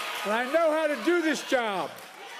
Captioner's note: cheers